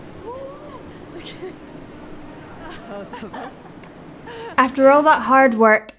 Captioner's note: laughing